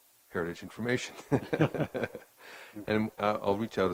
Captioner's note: laughing